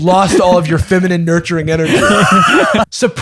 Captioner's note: laughter